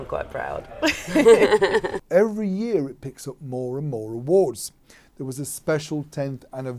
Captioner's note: laughter